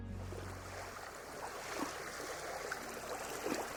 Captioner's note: water swooshing